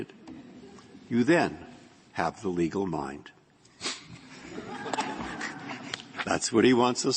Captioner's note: laughter